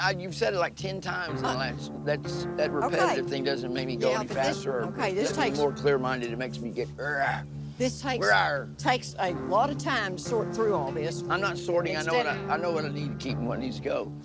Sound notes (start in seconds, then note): 10.5 growls